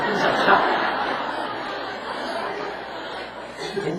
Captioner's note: audience Laughter